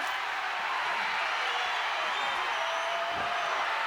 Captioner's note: crowd cheers